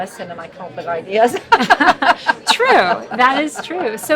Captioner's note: laughs